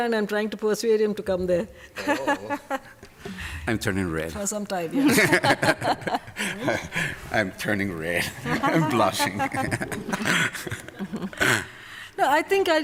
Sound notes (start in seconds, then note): 1.9 laughing; 5.0 laughter; 10.4 laughter